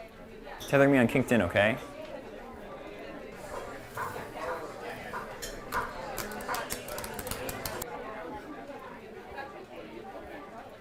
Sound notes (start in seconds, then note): 5.6 typing noises